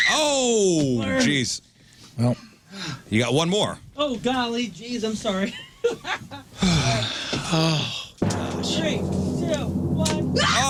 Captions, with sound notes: Oh, jeez. You got one more. Oh golly, jeez, I'm sorry. (Sighs) Three, two, one.